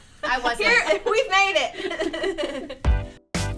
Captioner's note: laughs; upbeat music